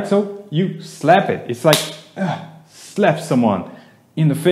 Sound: slaps

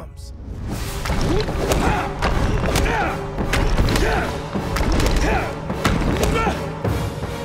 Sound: grunting

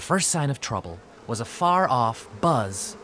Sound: buzzing

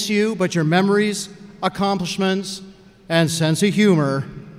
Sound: none

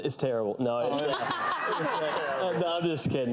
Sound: audience laughs

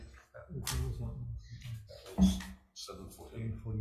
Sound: faintly speaking

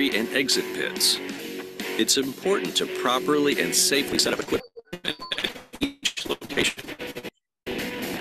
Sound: audio interference

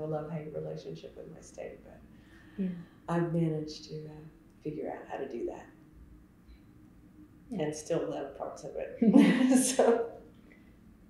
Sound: laughter

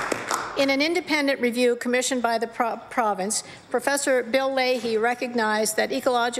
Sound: applause

